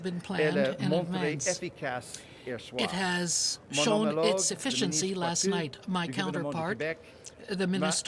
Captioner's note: speaking french